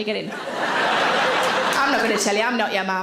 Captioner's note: audience laughing